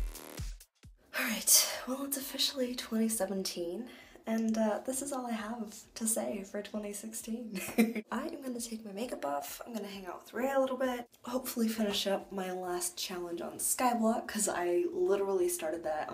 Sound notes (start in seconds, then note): 6.8 laugh